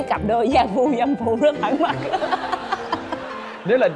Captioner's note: laughing